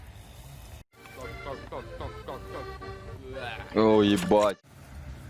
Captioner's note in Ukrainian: п'є